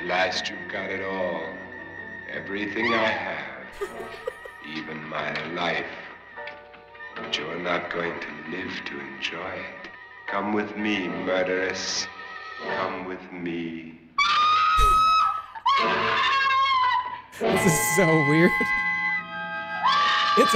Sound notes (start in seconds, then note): 3.7 laughs